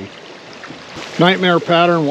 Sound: water flowing

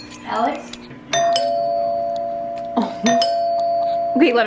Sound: door bell sound

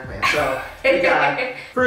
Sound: laughing

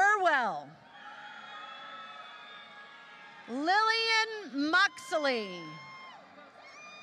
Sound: applause

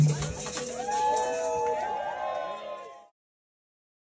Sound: people cheering

